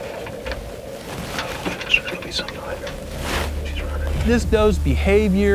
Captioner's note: whispering